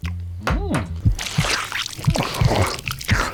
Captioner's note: squelchy time